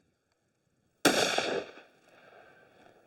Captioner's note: gun shot